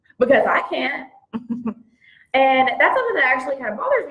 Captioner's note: chuckles